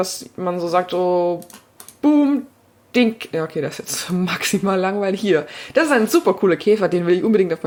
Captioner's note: click click